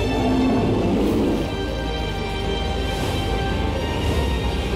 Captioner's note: growling